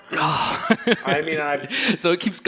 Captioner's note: sighs